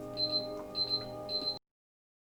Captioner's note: beeping